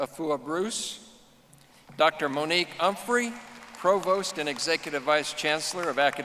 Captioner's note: audience applauding